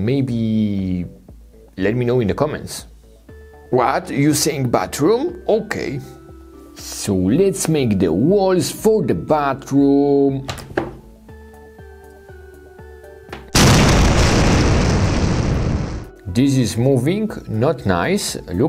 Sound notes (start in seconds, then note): 13.5 explosion booming